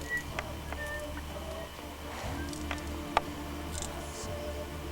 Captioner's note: whistling